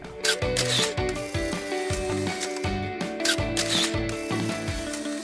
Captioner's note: camera shutter clicking